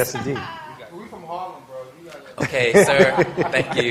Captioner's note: laughter